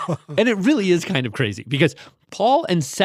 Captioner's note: laughs